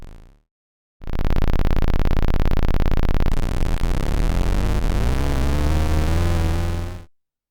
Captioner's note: motorcycle idling, and then accelerating